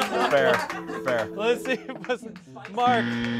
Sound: laughs

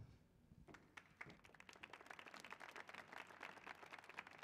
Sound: applause

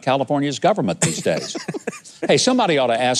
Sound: guest laughing

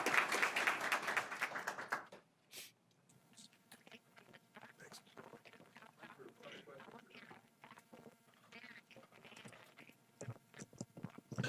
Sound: applause

